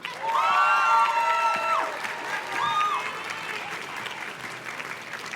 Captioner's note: audience cheers and claps